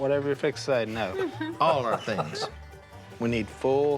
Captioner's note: laughing